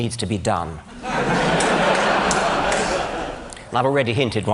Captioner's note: laughter